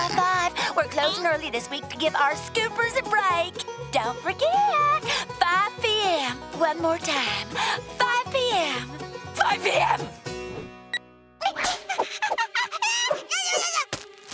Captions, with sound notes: We're closing early to give our scoopers a break. Don't forget, 5 p.m. One more time; 5 p.m. 5 p.m.! [beeping] [babbling]